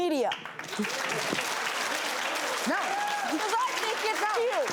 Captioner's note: audience applauding